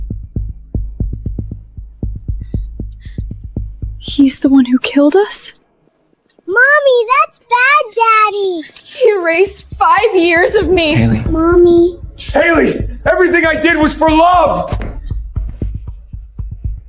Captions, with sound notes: Sinclair family, Spencer, Vanessa, you despicable cheaters, you'll have no choice but to kneel at my feet. (footsteps thumping) (squeaking)